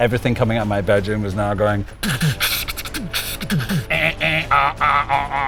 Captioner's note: beatboxing